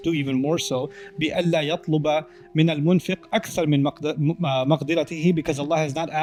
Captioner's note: Arabic